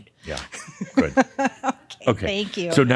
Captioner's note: she chuckles